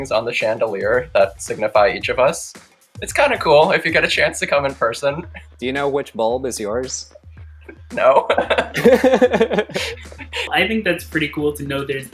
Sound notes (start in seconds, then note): 7.6 chuckling